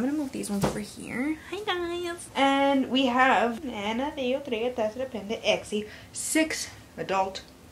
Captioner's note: counting in Greek to six